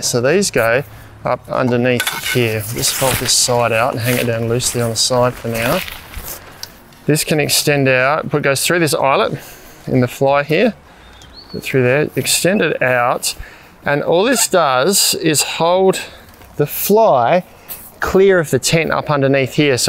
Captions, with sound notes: So these go up underneath here, just fold this side out and hang it down loosely on the side for now. This can extend out, (soft music) pole goes through this eyelet in the fly here through that extended out. (birds chirping) And all this does is hold the fly clear of the tent up underneath here.